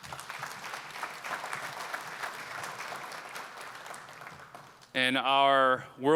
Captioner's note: applause